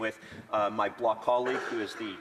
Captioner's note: speaking French